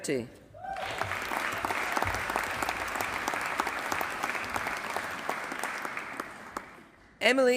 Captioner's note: applause